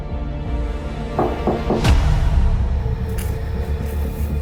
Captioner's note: dramatic orchestral music; door knocks; slow dramatic music